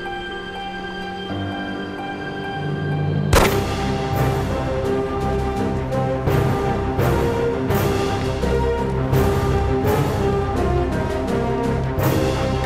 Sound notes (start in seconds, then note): 3.2 action music; 3.3 gunshot